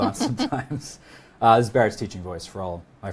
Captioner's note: both laughing